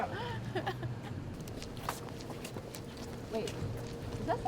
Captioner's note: riendo